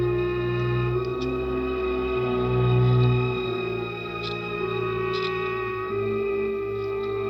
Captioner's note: ominous orchestral music; scissors snipping